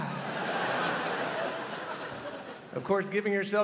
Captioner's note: crowd laughs